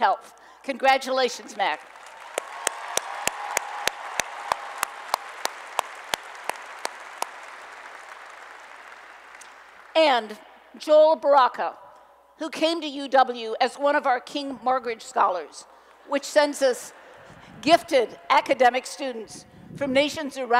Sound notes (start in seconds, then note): 1.8 applause and Cheering